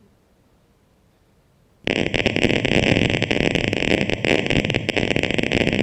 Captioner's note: crackling